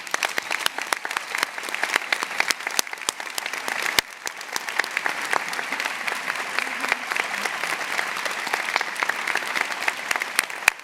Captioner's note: applause